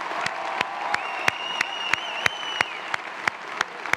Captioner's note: applause